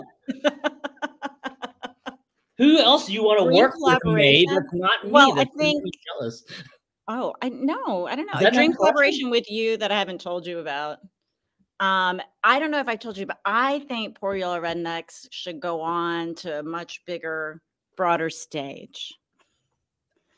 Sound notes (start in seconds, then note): 0.1 laughs; 8.3 laughs